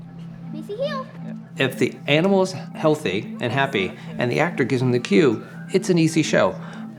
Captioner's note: narrating